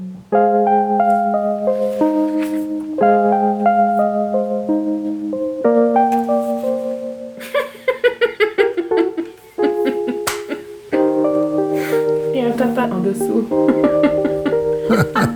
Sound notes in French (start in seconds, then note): 2.4 La musique douce se poursuit; 7.4 Elle rit; 13.6 rires